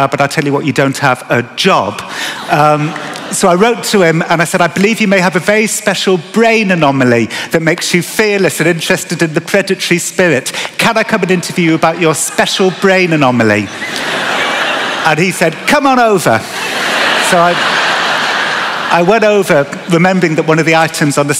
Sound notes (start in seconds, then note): 13.6 laughter; 16.4 laughter